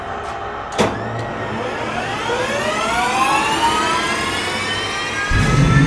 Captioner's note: jet turbine starting